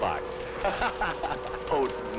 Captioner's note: laughing